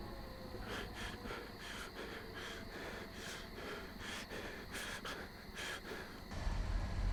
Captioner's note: panting